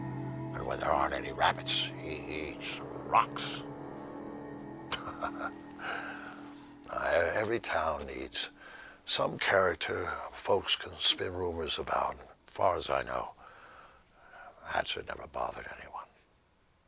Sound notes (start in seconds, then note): 4.9 Bill chuckles